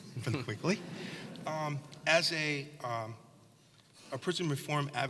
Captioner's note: laugh